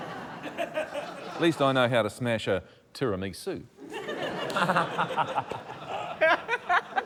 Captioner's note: laughter